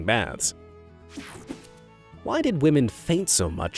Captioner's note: image whooshing